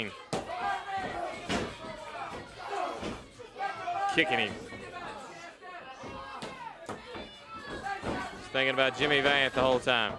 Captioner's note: crowd chatter